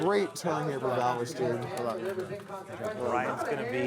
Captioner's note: background chatter